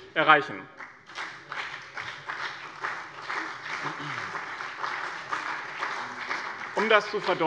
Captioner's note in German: Beifall bei dem BÜNDNIS 90/DIE GRÜNEN und der CDU